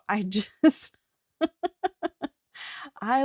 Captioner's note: laughs